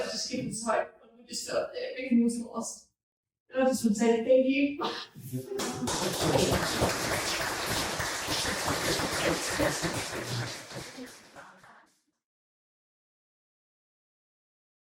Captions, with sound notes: when I thought everything was lost but I would just say thank you. (people clapping)